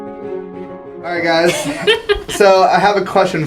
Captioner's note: laugh